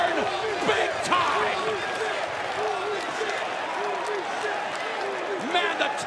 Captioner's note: crowd cheering